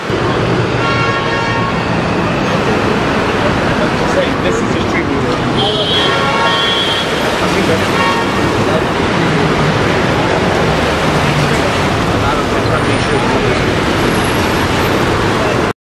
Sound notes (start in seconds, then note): 0.1 horns; 2.1 sirens and horns overtop flowing water